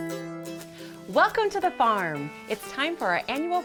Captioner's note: hay rustles